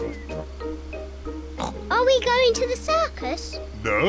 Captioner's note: oinks